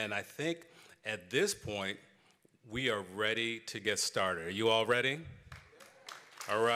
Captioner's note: applause